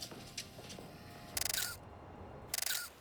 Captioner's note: <i> camera shutter clicking</i>